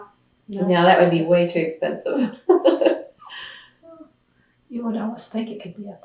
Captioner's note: laughs